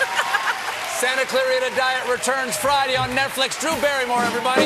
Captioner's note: applause